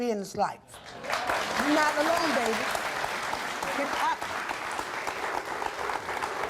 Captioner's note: audience applauds